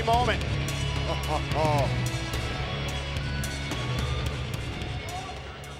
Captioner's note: commentator chuckling